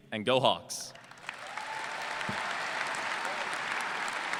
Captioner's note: applause